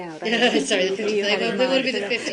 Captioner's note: laughter